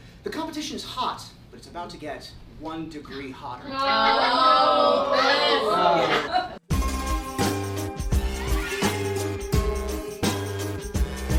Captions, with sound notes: the competition is hot, but it's about to get one degree hotter. (contestants groan) (upbeat music)